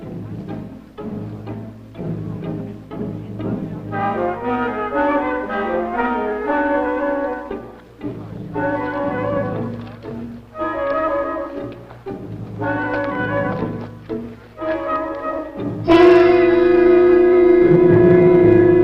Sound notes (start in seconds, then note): 0.0 rustling; 6.2 suspenseful music; 10.6 music intensifies; 12.6 rustling; 15.8 music intensifies